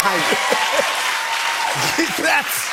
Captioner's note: cheers and applause